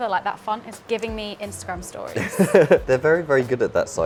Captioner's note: laughs